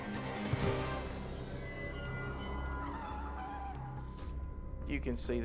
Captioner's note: light intense music; ominous music; tires screech